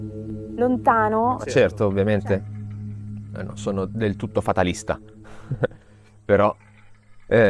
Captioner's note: laughs